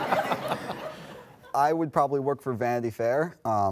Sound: laughter

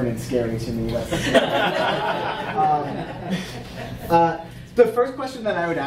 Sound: audience laughing

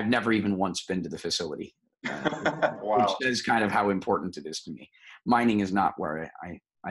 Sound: laughs

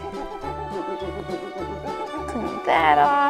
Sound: rag cleaning

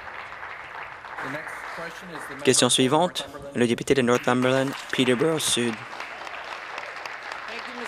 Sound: applause

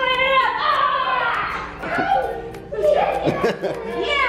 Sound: yelling

